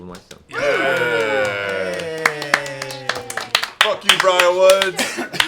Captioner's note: cheering